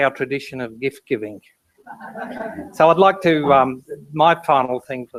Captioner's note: laugh